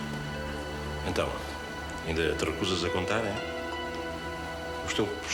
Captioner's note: speaking portuguese